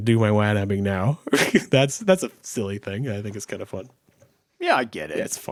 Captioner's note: chuckles